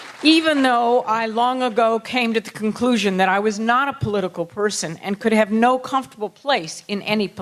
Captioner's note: applause